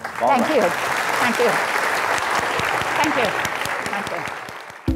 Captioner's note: audience applauds